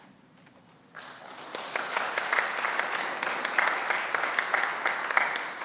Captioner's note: congregation applauds